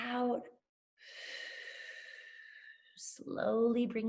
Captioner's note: exhales